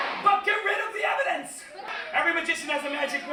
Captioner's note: laughter